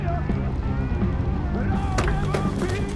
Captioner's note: yelling